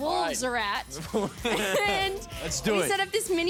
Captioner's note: both laughing